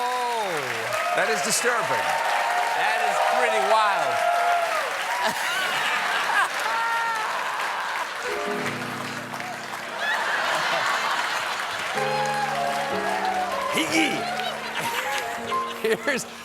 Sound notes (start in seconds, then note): 4.0 laughter; 10.8 applause